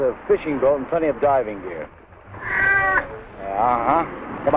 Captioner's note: Pete meowing